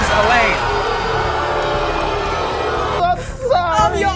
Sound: audience booing

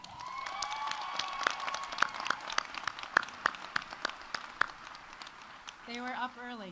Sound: audience cheering; audience applauding

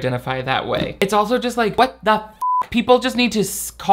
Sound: beep

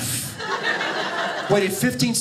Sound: audience laughing

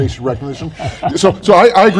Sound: laughs

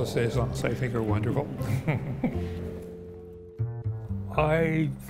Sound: chuckles

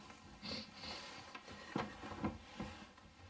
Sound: rustling sound; sniffing; rustling sound

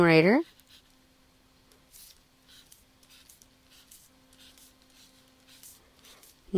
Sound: pause in Lecture

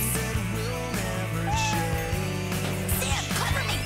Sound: meowing

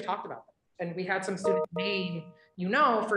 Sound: computer notification chiming

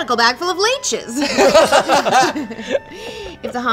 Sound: all laugh

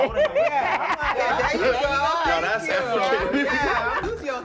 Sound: laughs; laughing

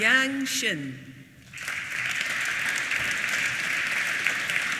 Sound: applause

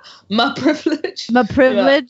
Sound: laughs

